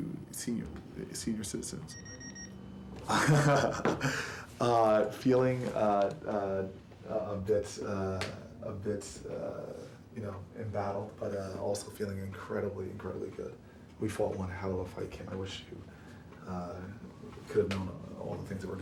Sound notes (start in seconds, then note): 3.0 laughing